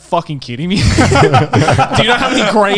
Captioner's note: laughing